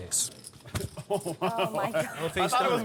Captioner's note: laugher